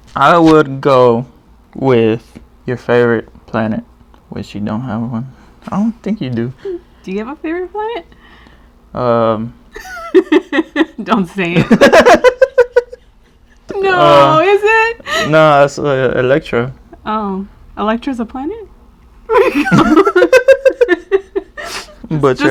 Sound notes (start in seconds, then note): 9.7 laughs; 12.8 laugh; 19.3 laugh